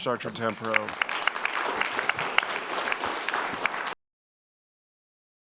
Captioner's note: audience applauding